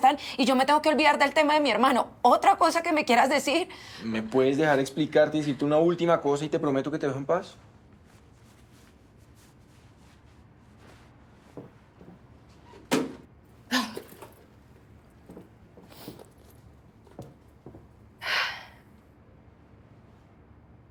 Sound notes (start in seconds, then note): 18.2 sigh